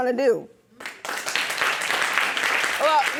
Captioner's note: audience applauds